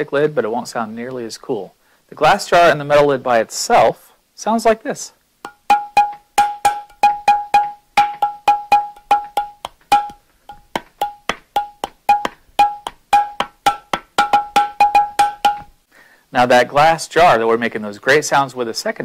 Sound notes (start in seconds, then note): 5.6 tap tap tap